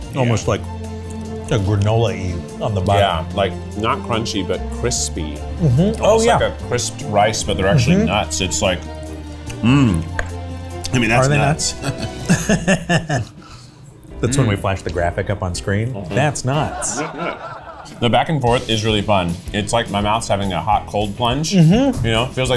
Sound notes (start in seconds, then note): 11.8 laughs; 16.4 audience laughing